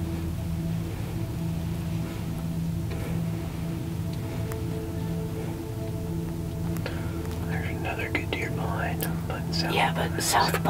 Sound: whispering

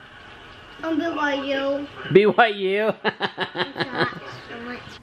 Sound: laughs

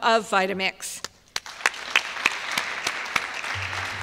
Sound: applause

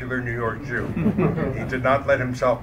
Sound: audience laughter

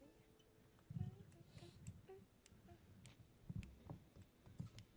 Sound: fingers snapping

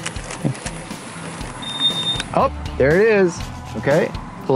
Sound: meter beeps

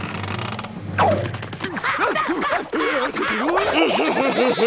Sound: grunting; laughing

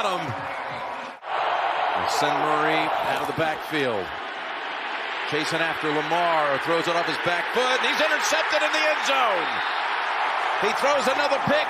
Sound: cheering and applause

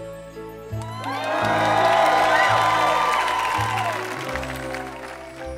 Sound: audience cheering

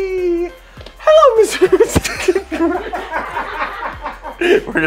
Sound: laughs

